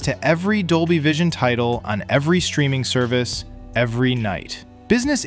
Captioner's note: thoughtful